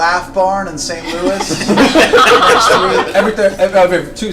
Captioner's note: all laugh